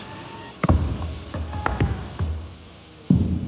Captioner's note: thud!